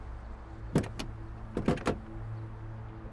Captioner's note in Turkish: Kapı Açılıyor